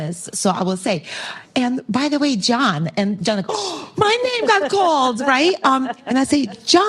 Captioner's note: gasp